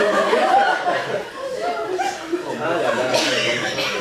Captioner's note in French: rires public